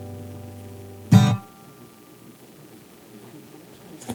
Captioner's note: rain pouring